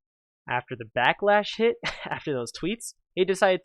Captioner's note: heh